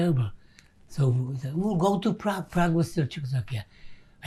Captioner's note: non-english